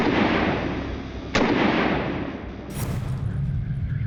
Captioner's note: gun blasting